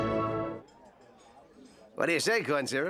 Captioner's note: music stops